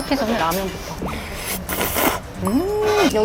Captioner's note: slurp-slurp-slurp